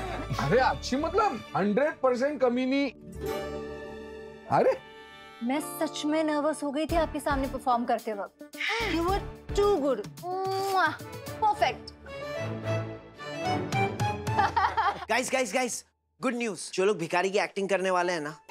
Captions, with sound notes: Of course, 100 per cent wretched. Hey! I truly got nervous while performing in front of you. - Huh? - You were too good. [smooches] Perfect! - [laughing] - Guys! Good news. Those people for the beggar's role